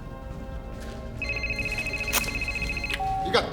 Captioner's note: rings